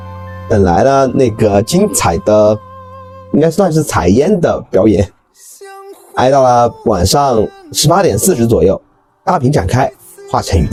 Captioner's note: drone